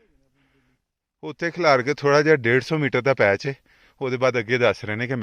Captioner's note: speaking punjabi